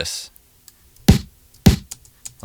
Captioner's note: tapping